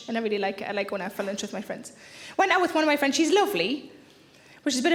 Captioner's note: none